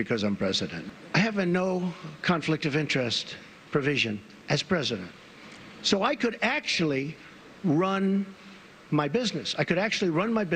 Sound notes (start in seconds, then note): none